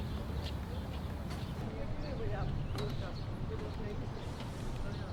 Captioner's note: non-english speech